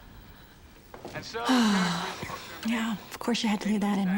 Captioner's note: sighs